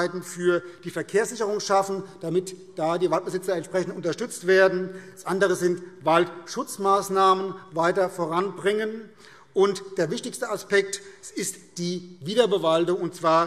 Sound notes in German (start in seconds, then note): none